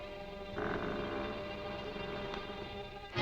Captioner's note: door creaking